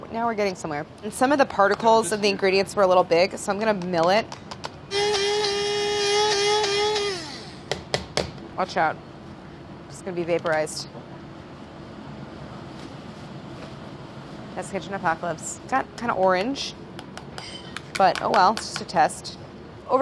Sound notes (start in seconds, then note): 4.9 machine whirring